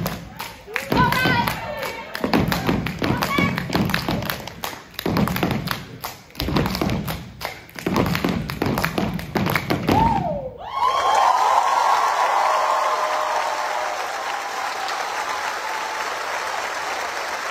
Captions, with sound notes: Alright. Okay. (cheering)